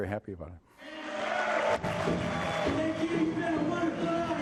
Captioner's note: applause